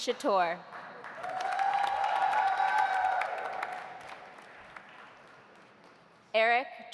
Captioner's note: audience applauding; audience cheering